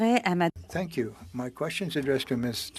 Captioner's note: speaking in French